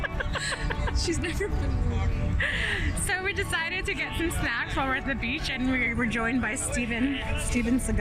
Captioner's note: laughter